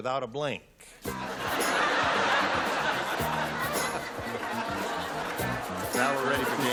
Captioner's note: laughter